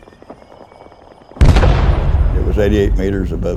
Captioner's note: mortar BLAST